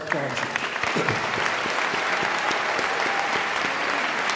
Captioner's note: all clapping